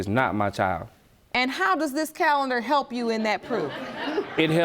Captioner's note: audience laughing